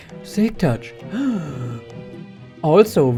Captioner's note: gasp